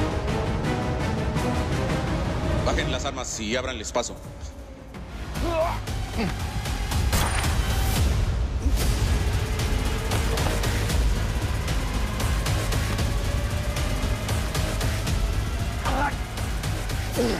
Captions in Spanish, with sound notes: - Bajen las armas y ábranles paso. [Exclamación] [Disparo] [Quejido]